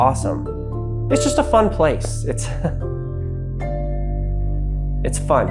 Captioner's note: chuckles